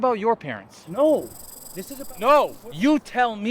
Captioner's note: snake rattles